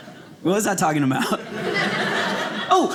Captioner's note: audience laughing